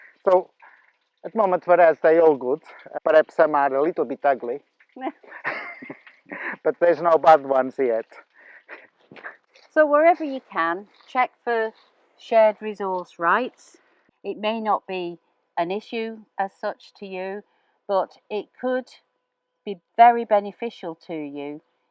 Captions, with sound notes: So at the moment for us, they're all good. Perhaps some are a little bit ugly, (laughter) but there's no bad ones yet. So wherever you can, check for shared resource rights. It may not be an issue, as such, to you, but it could be very beneficial to you,